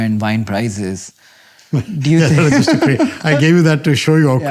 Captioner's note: laughter